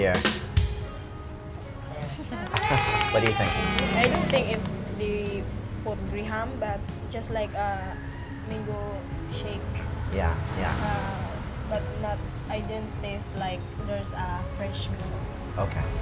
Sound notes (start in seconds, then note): 0.0 drumbeat effects; 2.4 children cheering hooray